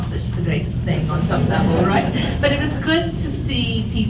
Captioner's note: audience laughs